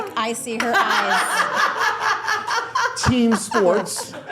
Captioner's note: all laughing